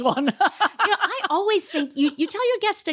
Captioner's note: laughing